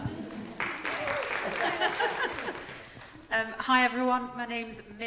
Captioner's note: audience applauding